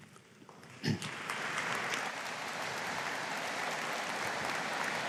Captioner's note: audience applauding